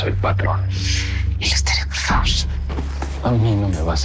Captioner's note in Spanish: Susurra